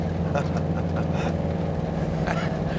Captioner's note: chuckling